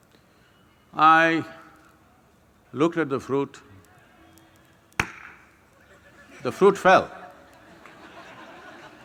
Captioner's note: gestures – Claps; laughter